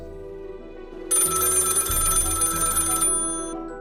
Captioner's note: old phone ringing